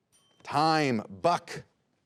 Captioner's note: bell dings